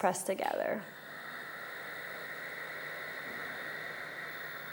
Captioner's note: breathing